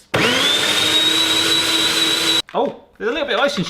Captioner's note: blender whirring